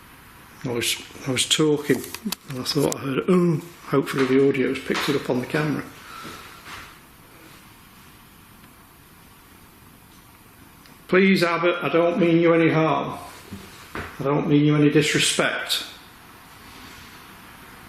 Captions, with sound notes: I was talking, and I thought I heard an (groan). Hopefully the audio's picked it up on the camera. Please, Abbott, I don't mean you any harm. I don't mean you any disrespect.